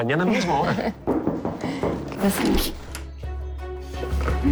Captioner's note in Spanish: Toques en la puerta